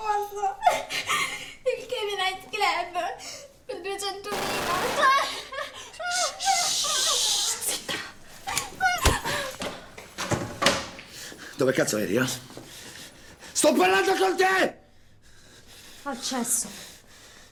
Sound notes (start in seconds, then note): 4.3 distant gunshots; 10.2 cabinet closes